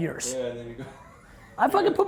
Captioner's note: laughing